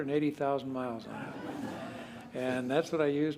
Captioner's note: laughter